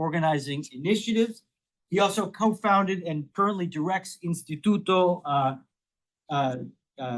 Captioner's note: speaks Spanish